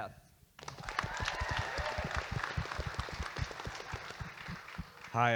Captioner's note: audience applauding